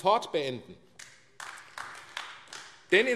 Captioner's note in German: Beifall AfD